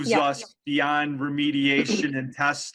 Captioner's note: clears throat